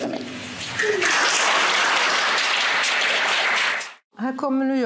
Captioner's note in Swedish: Applåder